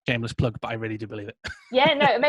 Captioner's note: chuckling